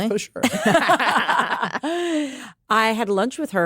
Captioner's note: laugh